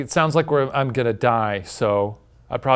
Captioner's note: none